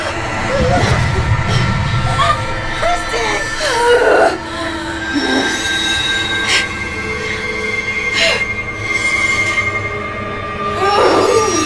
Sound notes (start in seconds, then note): 3.4 dramatic music; 3.4 grunting